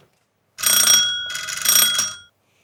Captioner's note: doorbell rings